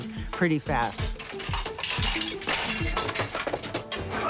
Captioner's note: clattering; man straining